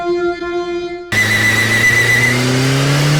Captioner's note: tires screeching